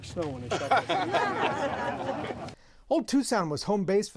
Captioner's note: laughter